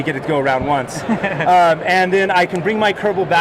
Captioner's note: laughing